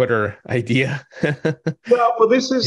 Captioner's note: laughing